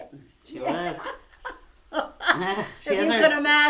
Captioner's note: laughter